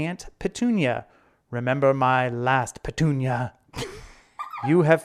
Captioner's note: laughing